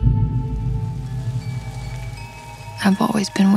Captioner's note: bells chiming